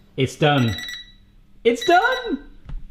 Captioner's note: oven timer beeping